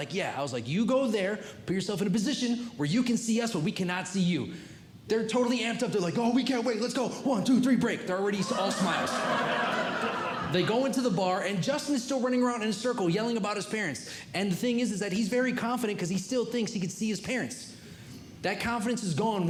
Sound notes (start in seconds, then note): 8.4 audience Laughing